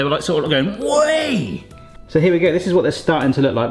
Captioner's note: shouts